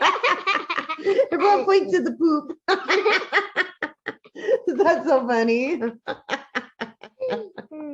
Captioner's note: laughter